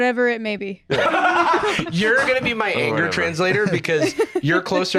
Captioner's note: laughs